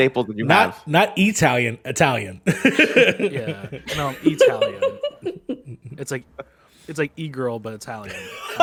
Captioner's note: laughs; laughs